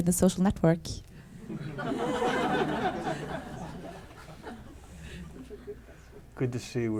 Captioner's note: laughter